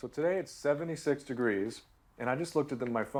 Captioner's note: none